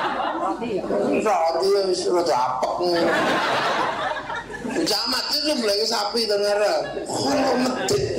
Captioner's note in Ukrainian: Сміється